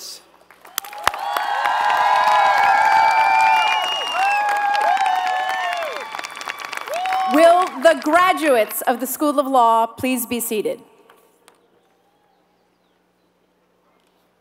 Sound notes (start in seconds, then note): 0.4 applause